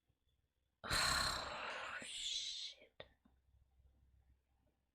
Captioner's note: exhales breath